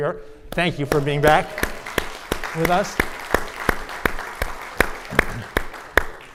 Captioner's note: audience applauding